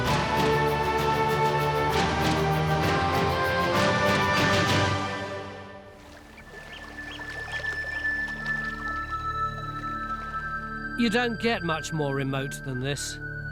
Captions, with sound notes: (water laps) (bird peeps) (eerie tune) You don't get much more remote than this.